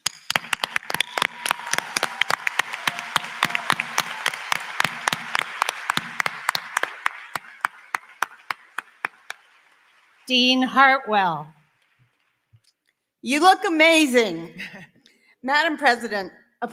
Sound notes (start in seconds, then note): 3.6 applause